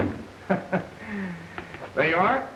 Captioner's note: Owen laughs